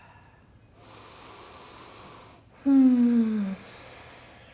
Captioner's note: breathing